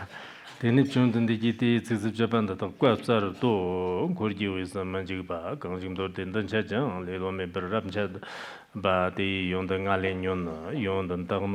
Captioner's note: giving oral transmission in Tibetan